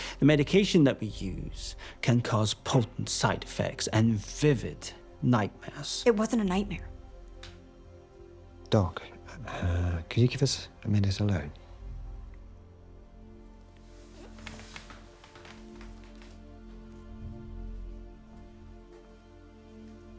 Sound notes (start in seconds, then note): 13.7 chair creaking; 14.5 pensive music continues